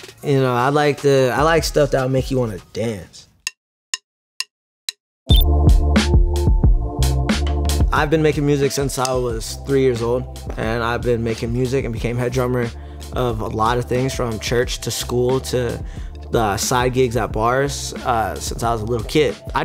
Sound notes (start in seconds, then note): 3.3 drumsticks tapping; 5.3 electronic beep; 5.3 hip hop music